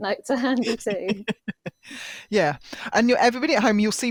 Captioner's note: laughs